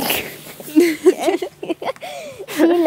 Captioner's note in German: Kichern